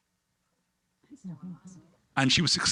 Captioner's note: people chattering